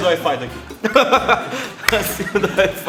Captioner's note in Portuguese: Risada; Entre risos